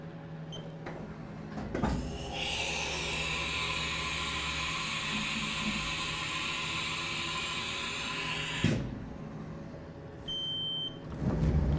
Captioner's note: machine whirring